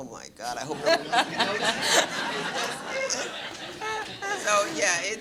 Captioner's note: laughter